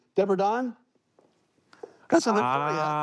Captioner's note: footsteps